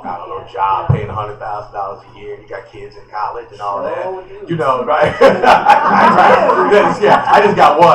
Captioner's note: laughter